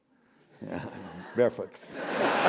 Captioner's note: laugh; applause